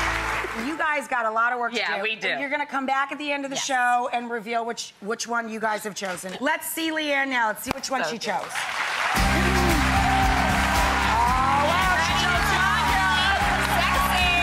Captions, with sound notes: You guys got a lotta work to do! Yeah, we do. You're gonna come back at the end of the show and reveal which one you guys have chosen. Let's see Leanna now and see which one she chose. (applause) Oh, wow, she chose (drowned out by applause)! Sexy!